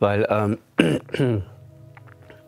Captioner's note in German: Räuspern